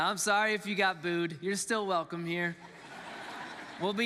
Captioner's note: congregants laughs